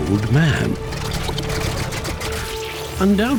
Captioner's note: engine sputters